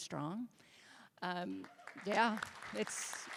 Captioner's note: applause